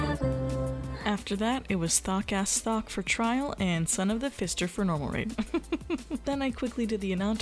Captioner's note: laughs